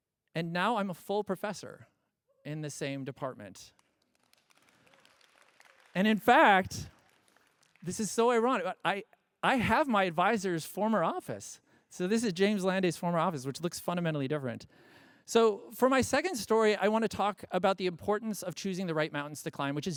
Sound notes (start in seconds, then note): 3.6 applause